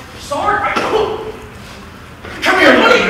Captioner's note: punching Noise